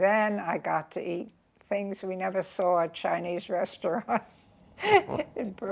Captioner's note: laughs